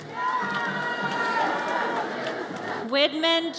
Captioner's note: audience cheers